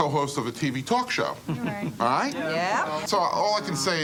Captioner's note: crowd chattering